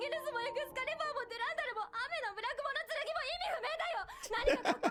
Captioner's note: speaking in foreign language; laughing